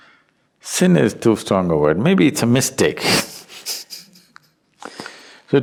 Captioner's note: laughs